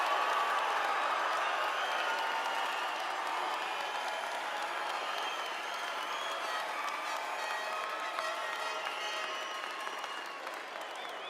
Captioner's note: cheers and applause